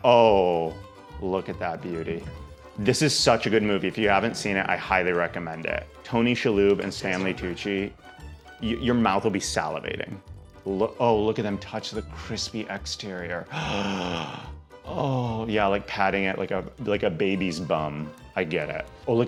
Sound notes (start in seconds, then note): 13.5 gasps